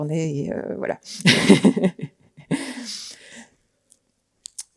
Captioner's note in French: Rires